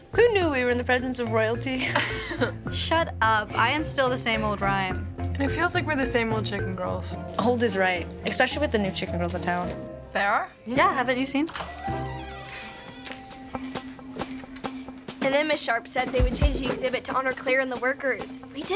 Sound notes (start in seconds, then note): 11.5 door bell rings